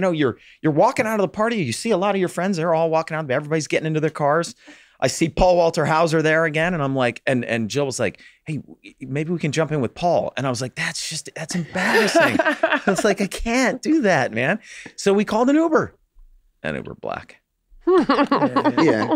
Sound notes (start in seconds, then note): 11.5 group chuckles; 17.8 Megan chuckles